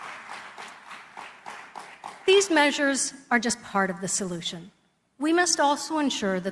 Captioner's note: applause